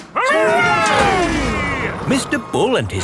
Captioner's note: all cheering